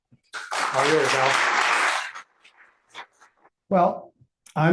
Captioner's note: audience applauding